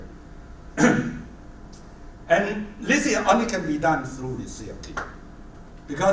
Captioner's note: cough